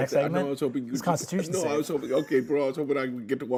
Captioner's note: laughs